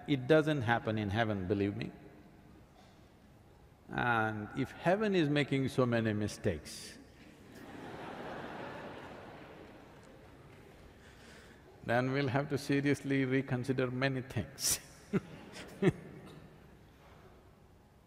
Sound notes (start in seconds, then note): 7.4 laughter; 16.1 laughs